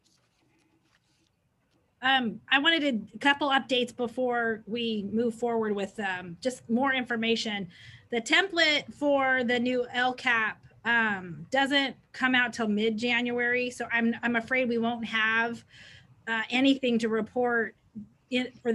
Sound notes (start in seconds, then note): none